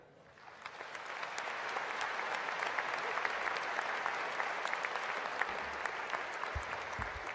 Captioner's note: applause